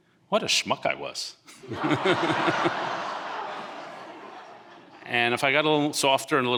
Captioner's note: audience laughing